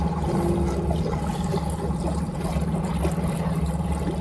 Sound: water gushing

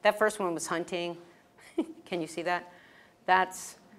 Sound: laugh

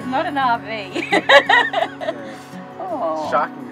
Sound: laughing

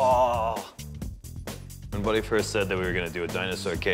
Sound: normal voice

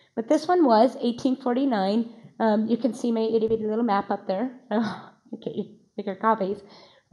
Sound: laughs

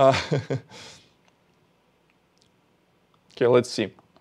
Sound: laughs

